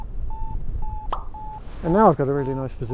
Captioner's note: Vario beeps